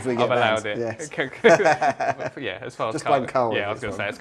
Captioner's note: laughs